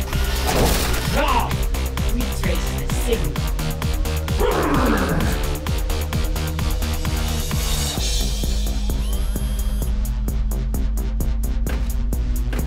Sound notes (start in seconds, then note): 0.0 Luna whirs; 0.2 blow thumps; 4.3 Auto grunting; 8.6 Mytra whirring; 12.4 footsteps clanging; 12.4 suspenseful synth music